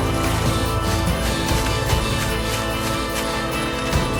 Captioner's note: branches cracking; heavy breathing